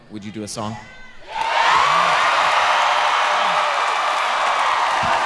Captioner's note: audience cheering